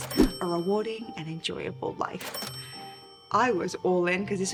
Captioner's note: money chime